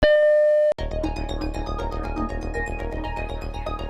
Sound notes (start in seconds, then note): 0.0 beep; 0.8 upbeat music